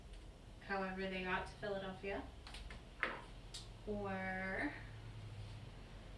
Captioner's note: knock